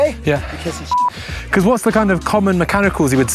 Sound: beep

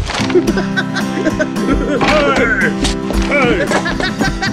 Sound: giggling

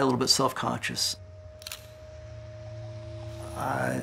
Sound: camera snapping photo

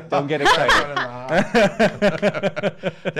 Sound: laughing

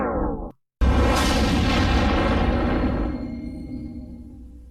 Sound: dramatic twister and helicopter sounds resuming

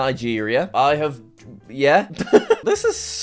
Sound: laughs

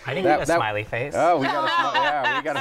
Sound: laughter

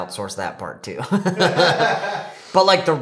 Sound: chuckles

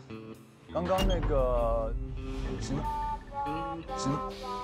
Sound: someone is closing the door

